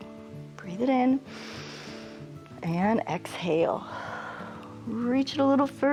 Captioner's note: inhales; exhales